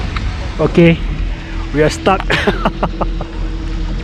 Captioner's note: nervous laughter